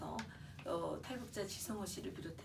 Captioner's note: speaking korean